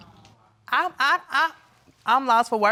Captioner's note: stammers